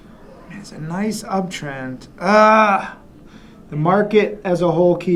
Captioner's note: groans